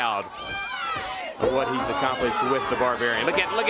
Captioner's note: crowd chatter